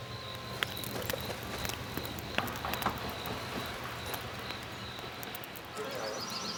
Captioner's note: fire crackles